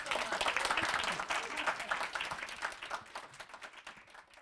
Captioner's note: applause